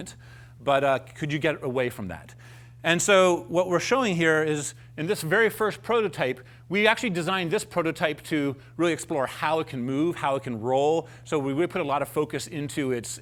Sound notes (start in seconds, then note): none